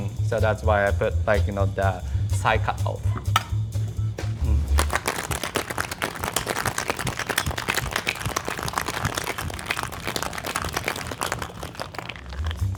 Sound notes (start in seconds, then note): 4.6 ice clanking